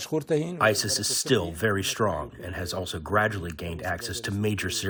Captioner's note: through translator